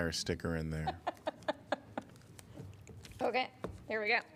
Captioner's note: laughter